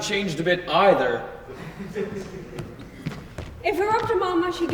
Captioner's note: audience laughs softly